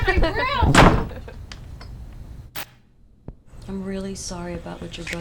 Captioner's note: laughs